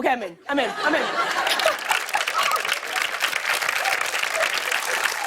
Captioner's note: applause